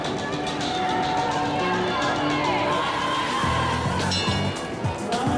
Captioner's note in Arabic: صراخ الجماهير